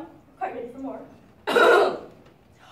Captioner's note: coughs